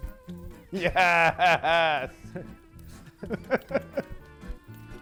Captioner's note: laughs